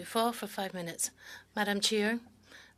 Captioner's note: speaking French